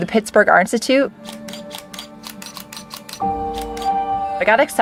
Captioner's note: camera shutter clicking